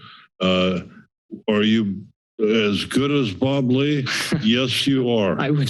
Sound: chuckles

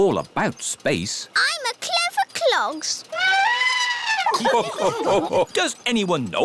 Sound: trumpets; all laugh

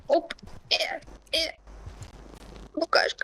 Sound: sounds of effort

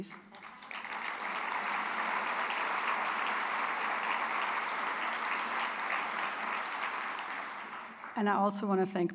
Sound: applause

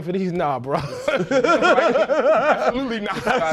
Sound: laughter

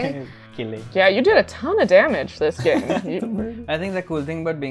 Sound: laughter

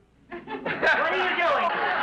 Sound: audience laughs

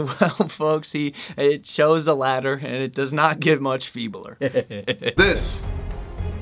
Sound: laughs

